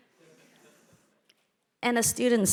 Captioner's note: audience member laughing